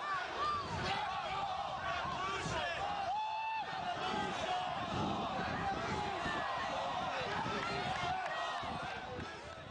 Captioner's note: applause